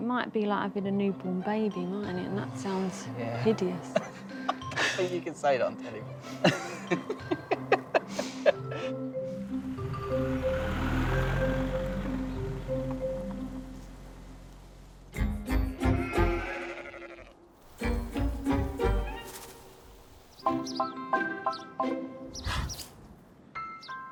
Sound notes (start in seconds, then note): 5.7 laughs; 7.6 playful music; 10.1 car engine rumbling; 15.4 playful music; 15.7 sheep bleating; 20.4 playful music; 20.6 cow snorts; 23.6 bright music